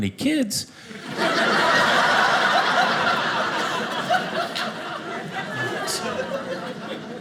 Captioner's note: audience laughing